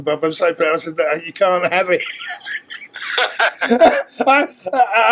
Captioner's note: laugh